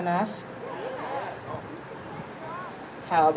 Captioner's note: crowd